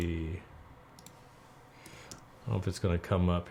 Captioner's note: clicking